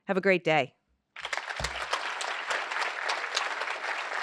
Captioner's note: applause